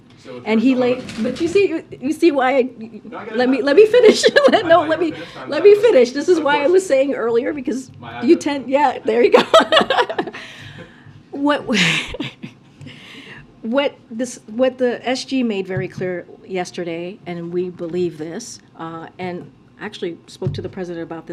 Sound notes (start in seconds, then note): 9.3 laughter; 11.7 laughs